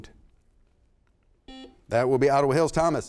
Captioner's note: buzzer sounds